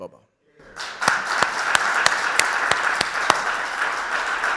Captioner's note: audience clapping